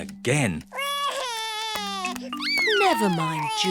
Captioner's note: sobs